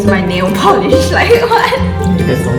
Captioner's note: laughs